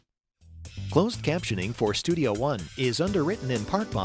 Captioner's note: voiceover